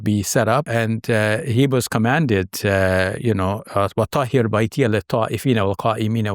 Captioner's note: speaks a foreign language